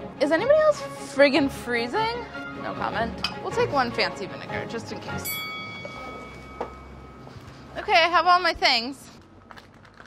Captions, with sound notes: Is anybody else, friggen' freezing? No comment, we'll take one fancy vinegar, just in case. [ding] Okay I have all my things.